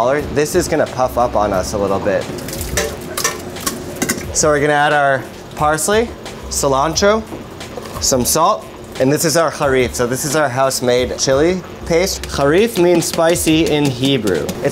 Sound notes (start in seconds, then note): 2.2 utensil clanking